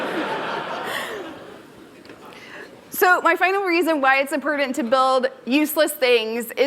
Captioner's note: laughter